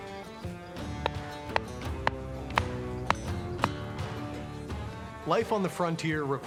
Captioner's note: hammering